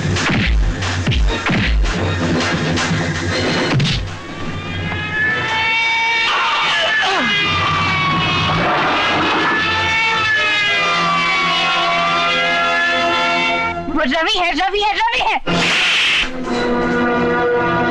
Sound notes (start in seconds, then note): 4.2 distant Siren Wailing; 15.3 slapping